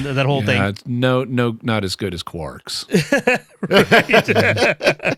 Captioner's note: laughter